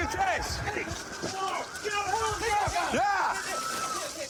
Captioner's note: shouting